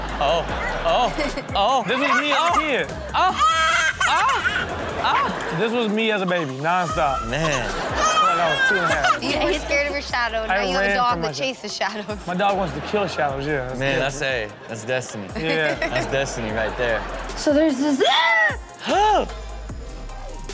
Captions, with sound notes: Oh, oh, oh. This is me out here! (toddler cries) (audience laughs) - This was me as a baby nonstop. - Man. - I felt like I was two and a half. - You were scared of your shadow. No you have ha dog that chases shadows. - My dog wants to kill shallows. Yeah. - Man, I say that's destiny. (host and audience laughs) That's destiny, right there. - So there's... (woman screams)